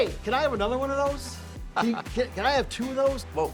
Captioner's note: laughter